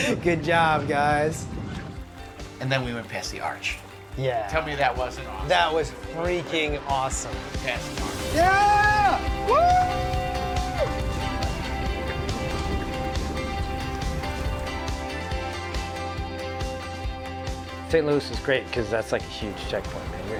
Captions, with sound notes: Good job, guys. And then we went past the arch. Yeah. Tell me that wasn't awesome. That was freaking awesome. Yeah! (cheering) (water splashing) St. Louis is great because that's like a huge checkpoint.